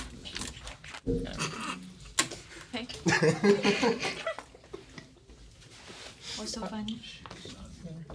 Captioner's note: students murmur